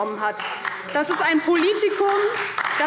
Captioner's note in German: Beifall DIE LINKE und Freie Demokraten